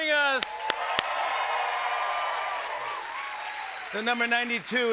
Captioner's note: cheers and applause